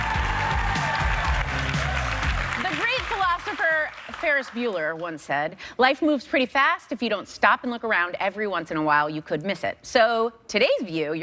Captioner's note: cheers and applause